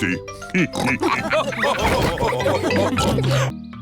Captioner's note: all laugh